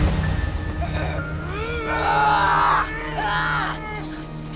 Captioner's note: grunting